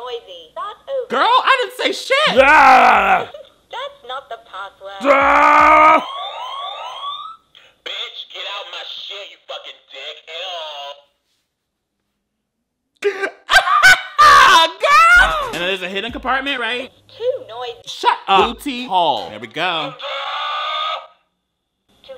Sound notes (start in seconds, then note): 2.2 grunts; 2.2 laughs; 5.0 yelps; 5.9 sirens wailing; 13.1 laughing; 15.0 boy grunts; 20.5 recording yelling